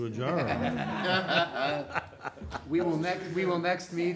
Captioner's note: audience laughing